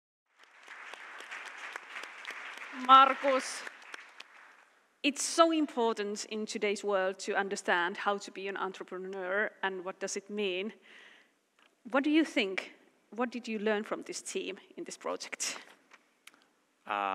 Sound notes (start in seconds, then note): 0.2 Aplodit